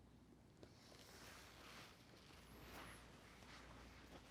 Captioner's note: clothes rustling